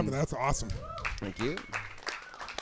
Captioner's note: applause